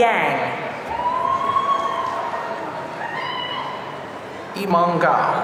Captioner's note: audience cheering